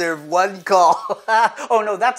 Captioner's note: laughs